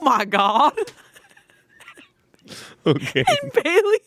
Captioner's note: laughing